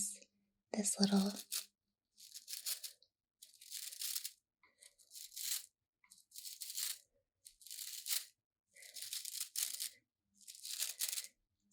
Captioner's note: bristles flicking